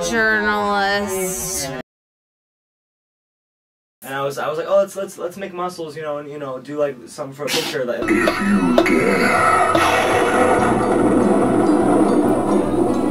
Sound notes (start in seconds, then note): 8.1 laughs